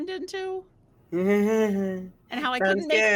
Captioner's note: chuckles nervously